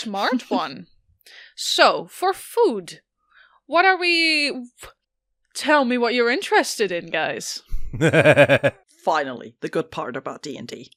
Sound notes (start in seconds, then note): 7.9 Annie laughs